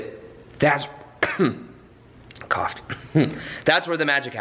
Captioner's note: coughs